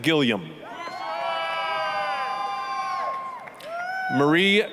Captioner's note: applause, cheering